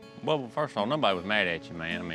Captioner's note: none